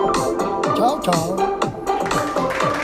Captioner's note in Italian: Applauso